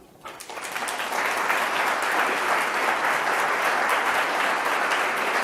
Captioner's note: audience claps